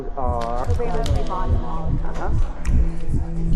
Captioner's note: distorted speaking; heartbeat pulsing; snapping